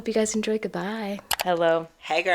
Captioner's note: click